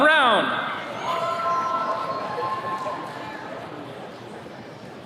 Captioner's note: attendees cheering